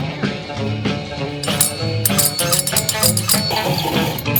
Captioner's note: drill clinking; metal grinding